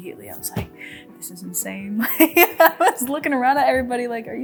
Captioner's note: laughs